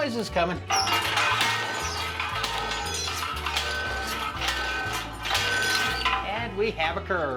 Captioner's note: loud banging